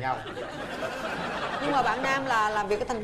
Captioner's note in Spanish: risas